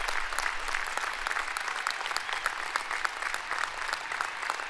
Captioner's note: applause